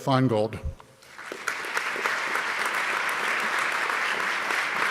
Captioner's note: audience clapping